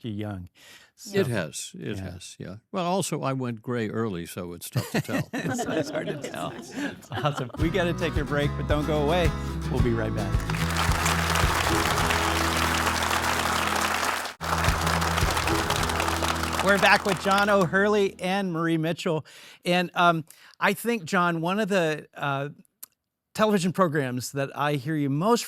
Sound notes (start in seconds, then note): 4.8 all laugh; 12.0 audience clapping; 15.6 upbeat music